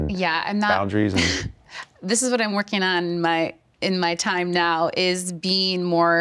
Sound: chuckles

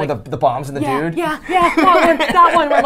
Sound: laughs

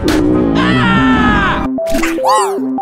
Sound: boomer appears ellis screams afterword

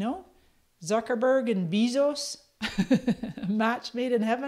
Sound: laughs

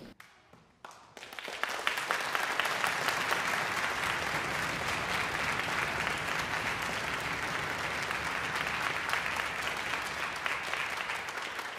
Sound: audience applause

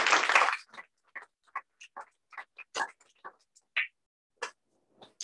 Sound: applause

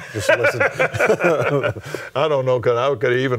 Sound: laughs

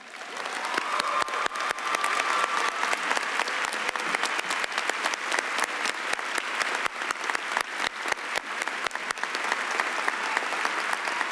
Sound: cheering and applause

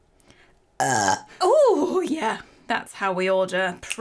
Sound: burps

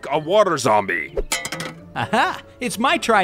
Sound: weapon clanks

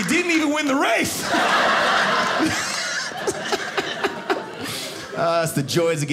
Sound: audience laughing

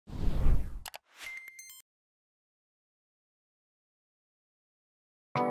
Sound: air whooshing; digital tones chiming

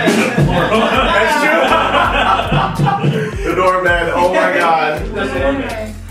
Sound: laughter

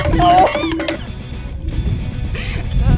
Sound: squeak; timer counting down

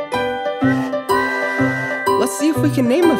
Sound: train whistles

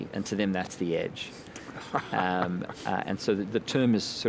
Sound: chuckling

